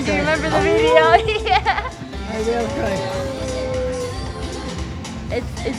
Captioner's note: whale noises